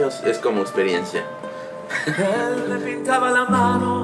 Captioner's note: he chuckles